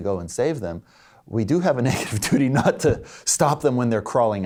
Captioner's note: laughs